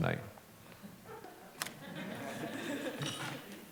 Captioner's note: laughter